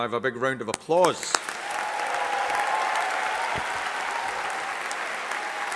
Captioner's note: audience cheering and applauding